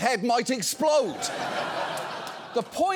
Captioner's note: audience laughs